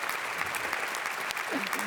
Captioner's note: audience clapping